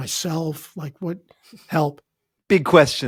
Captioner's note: chuckling